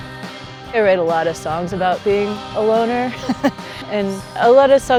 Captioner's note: laughs